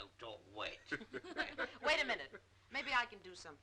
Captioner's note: group laughing